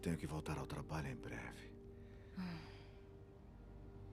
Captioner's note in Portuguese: suspiro